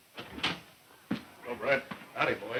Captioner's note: door opening